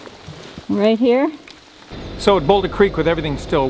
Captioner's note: engine running